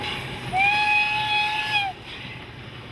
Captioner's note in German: Zugpfeifen